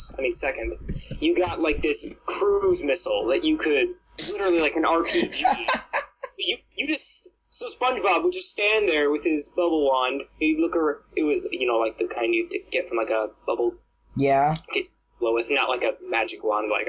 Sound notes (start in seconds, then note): 5.0 laughing